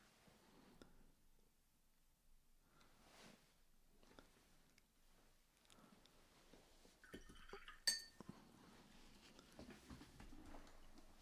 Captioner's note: silence